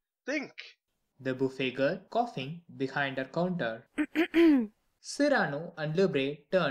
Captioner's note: coughing, behind her counter